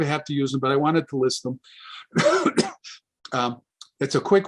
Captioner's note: coughs